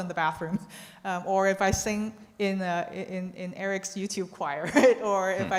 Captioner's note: chuckles